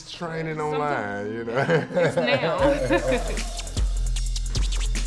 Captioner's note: laughing